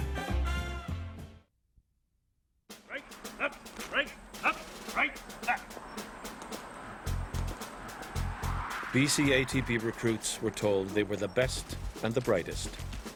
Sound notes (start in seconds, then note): 2.2 voiceover